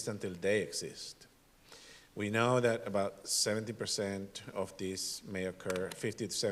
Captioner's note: none